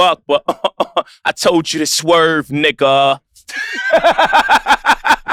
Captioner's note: chuckles; laughs